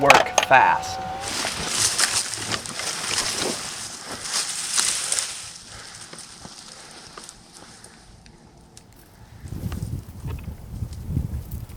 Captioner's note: walking, crunching noises